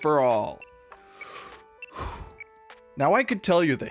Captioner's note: takes a sharp breath